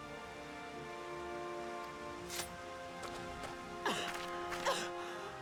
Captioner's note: crying